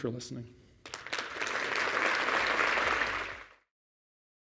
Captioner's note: applause